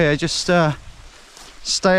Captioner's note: none